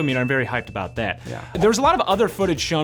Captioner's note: meter dings